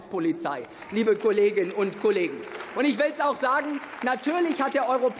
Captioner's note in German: Beifall